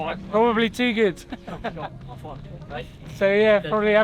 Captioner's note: laughter